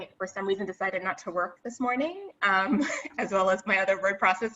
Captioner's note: giggles